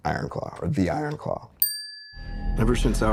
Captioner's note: bell dings